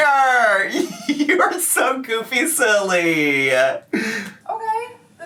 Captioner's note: laughs